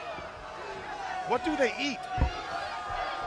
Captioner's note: crowd chatter